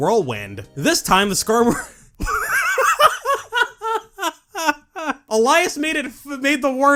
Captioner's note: laughs